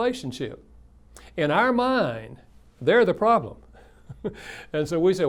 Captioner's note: laughs